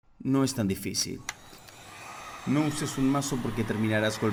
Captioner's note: Se oye la pistola de calor